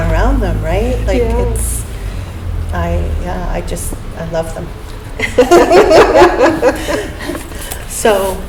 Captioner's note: laughter